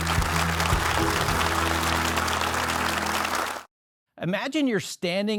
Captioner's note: upbeat music; audience clapping